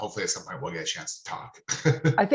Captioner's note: laughing